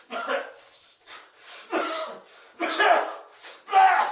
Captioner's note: Phil coughs